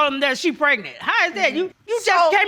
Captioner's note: stuttering